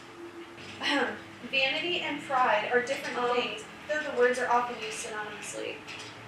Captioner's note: clears throat